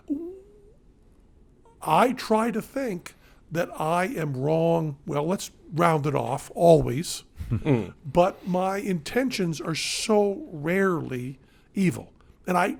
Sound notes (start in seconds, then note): 7.4 Glenn and Matt chuckle